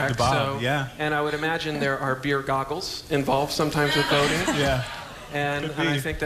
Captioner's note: laughter